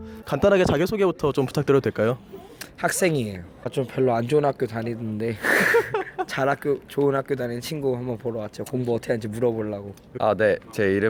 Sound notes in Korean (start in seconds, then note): 5.4 웃음